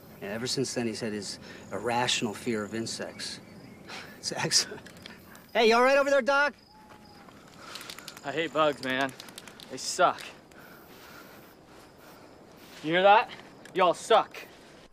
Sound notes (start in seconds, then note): 3.8 laughs; 7.7 stirring spray can